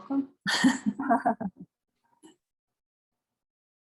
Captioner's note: laughing